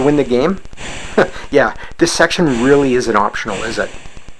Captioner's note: chuckles